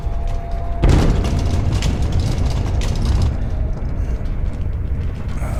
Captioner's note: banging and rattling